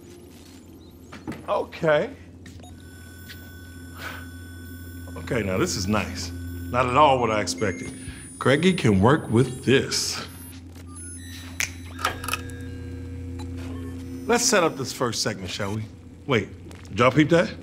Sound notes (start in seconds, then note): 11.4 neon lights buzzing; 11.5 snaps fingers